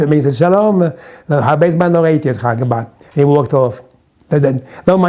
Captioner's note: in Hebrew